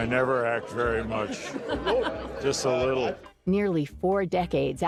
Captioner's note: interviewer chuckling